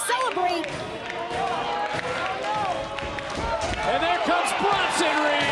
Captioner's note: crowd chatter